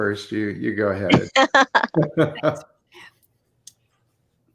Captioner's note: laughter